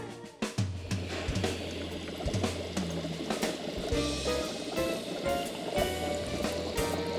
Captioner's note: bunsen burner hissing; liquid burbling